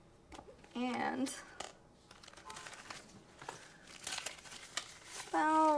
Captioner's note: money rustles